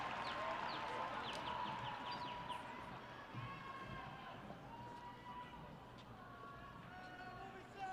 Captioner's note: cheers